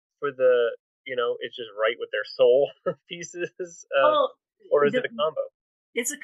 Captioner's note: laugh